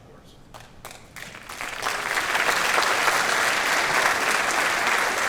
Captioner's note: audience applauds